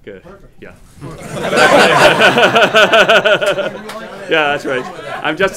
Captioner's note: laughter